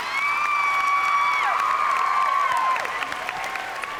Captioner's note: cheering and applause